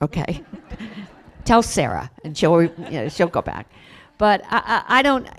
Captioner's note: laughter